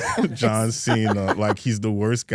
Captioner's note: Stephanie laughs